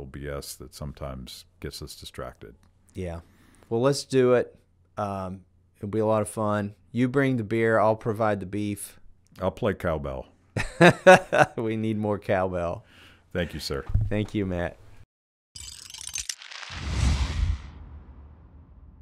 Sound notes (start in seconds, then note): 10.6 laughing; 16.3 whooshing